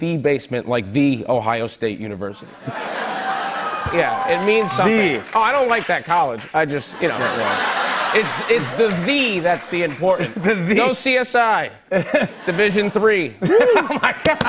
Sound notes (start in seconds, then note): 2.2 laughter and applause; 6.8 laughter